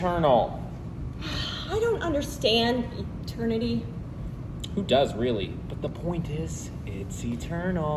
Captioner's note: sighs